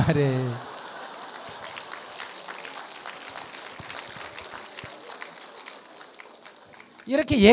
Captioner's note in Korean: 청중 웃음/박수